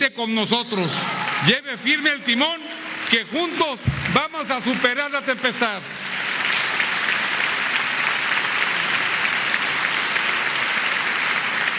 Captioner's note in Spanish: aplausos